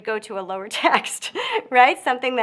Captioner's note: chuckles